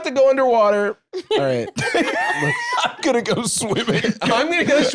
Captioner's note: laughs